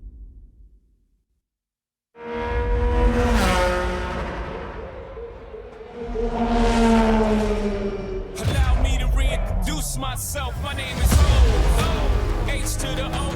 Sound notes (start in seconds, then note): 0.1 dramatic sound; 4.0 car engine whirring